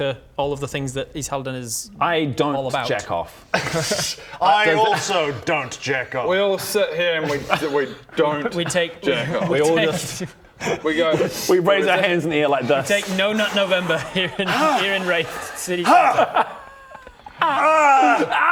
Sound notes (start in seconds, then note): 15.7 haagh; 17.5 aaaaaarg